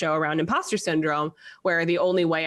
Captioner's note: none